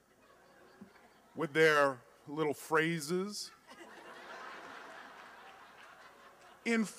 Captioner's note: laughter